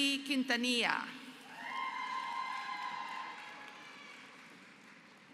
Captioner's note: applause